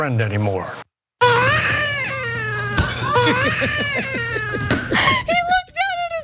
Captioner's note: laugh